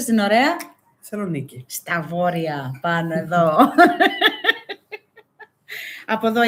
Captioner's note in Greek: γέλια